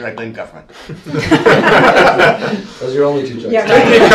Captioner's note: laughter